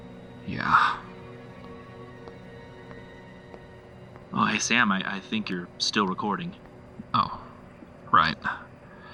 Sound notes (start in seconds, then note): 0.9 footsteps